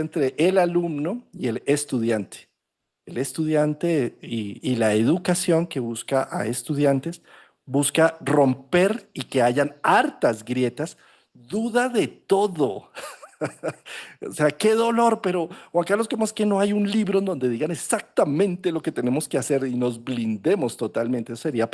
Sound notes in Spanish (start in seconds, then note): 12.9 risas